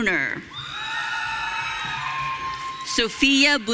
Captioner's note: audience cheering